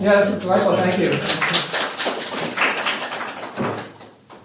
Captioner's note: applause